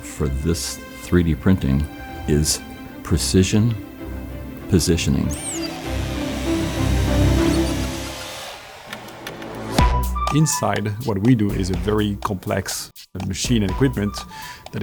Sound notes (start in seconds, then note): 4.9 printers buzzing; 9.4 upbeat music